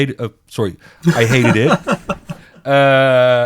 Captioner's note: laughs